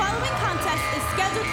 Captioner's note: cheers & applause